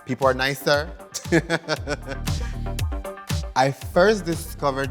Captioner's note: laughter